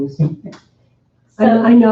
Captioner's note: chuckling